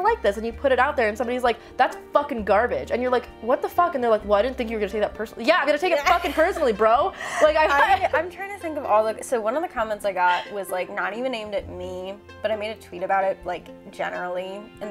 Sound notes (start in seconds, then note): 7.1 laughs; 8.1 stammers